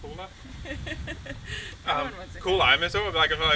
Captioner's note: laughter